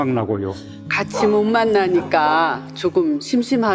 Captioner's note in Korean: 강아지 짖는 소리